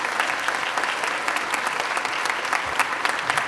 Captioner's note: applause